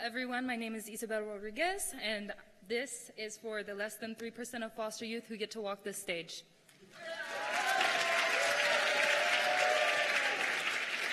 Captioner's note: cheers and applause